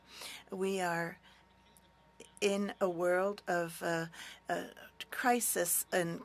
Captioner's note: speaking French